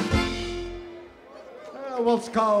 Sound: audience applauding

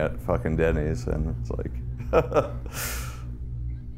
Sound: laughs

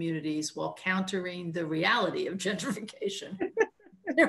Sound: laughs; chuckles

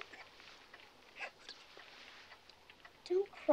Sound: Mrs. Ritter sobbing

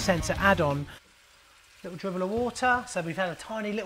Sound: water running

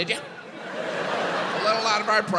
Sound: audience laughs

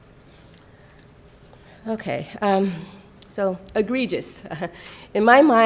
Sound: chuckle

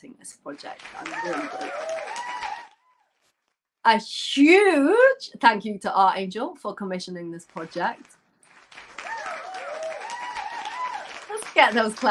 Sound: applause

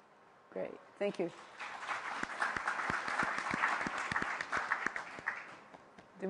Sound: applause

